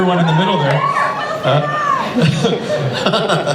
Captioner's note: audience member shouts